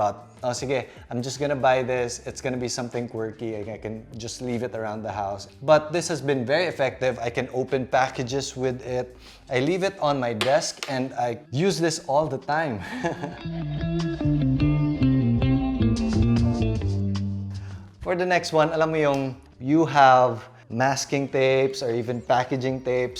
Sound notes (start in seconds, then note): 12.8 chuckles